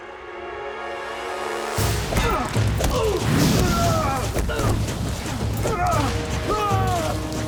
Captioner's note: grunting